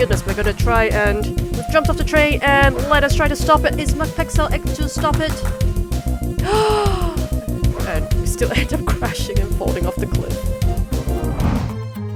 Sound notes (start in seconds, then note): 6.4 gasp